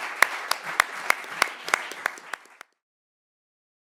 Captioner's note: audience applauding